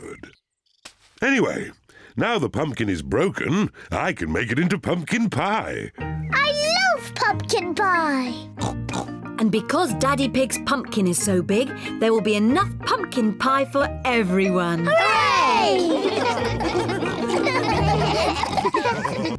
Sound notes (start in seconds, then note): 8.6 snorts; 15.4 all laugh